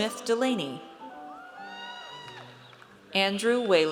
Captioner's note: audience cheers